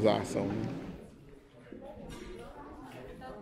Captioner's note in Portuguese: Pessoas falando